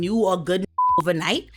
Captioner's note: beep